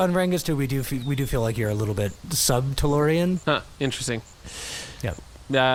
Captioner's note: through gritted teeth